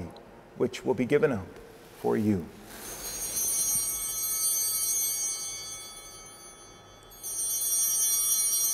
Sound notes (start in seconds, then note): 2.7 chimes ringing